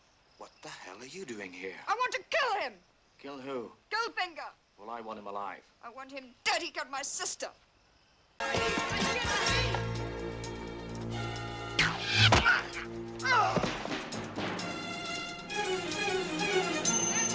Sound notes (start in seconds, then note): 11.8 click, Whoosh; 11.8 thud; 13.7 tense music; 17.1 distant shouting in foreign language